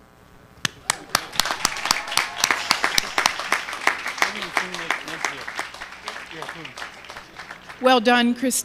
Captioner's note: applause